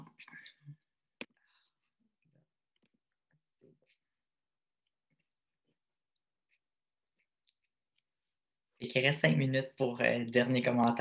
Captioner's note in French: silence